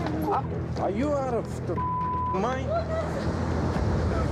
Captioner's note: beep